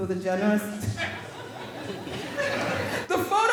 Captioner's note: all laughing